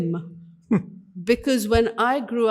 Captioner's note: giggles